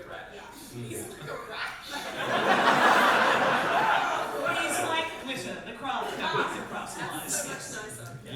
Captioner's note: audience laughter